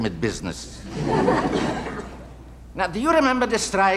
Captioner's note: audience laughing